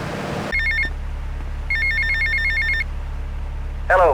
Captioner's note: phone ringing